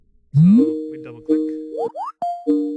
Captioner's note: cell phone ringing